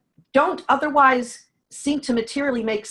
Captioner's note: none